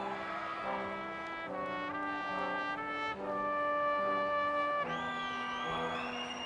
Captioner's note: crowd cheering